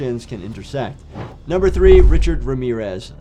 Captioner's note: transition whooshes